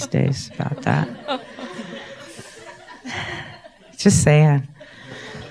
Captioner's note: audience laughs